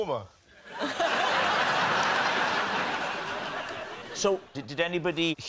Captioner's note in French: rires